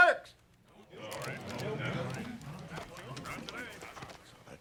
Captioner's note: everyone murmuring